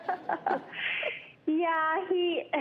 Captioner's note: laughs